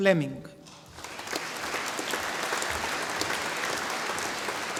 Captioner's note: audience applauding